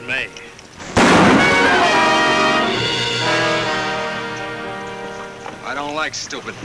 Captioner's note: gun bangs; dramatic music